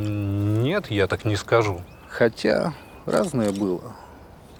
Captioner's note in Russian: щелчок фотоаппарата